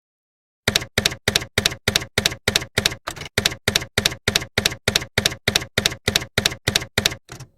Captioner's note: typewriter keys clacking